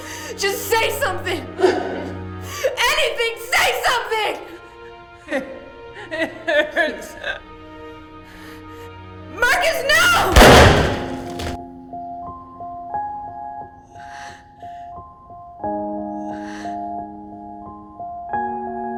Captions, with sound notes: Just, just say something. Anything, say something! - It hurts. - Marcus, no! (gun firing) (somber piano music)